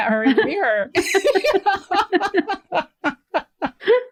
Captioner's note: laughter